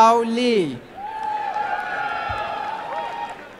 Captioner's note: applause and cheering